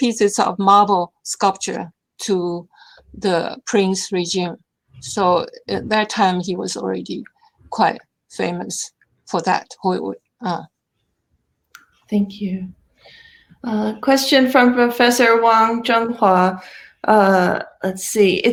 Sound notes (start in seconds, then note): 5.0 murmurs